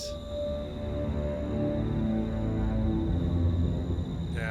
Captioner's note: crickets chirping; eerie music